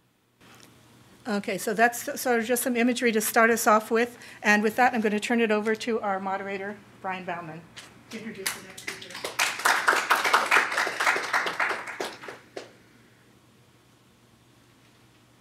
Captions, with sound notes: Okay, so that's sort of some imagery to start us off with and with that I'm turn it over to our moderator, Brian Baumann. (applause)